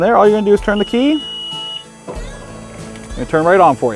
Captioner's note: key beeping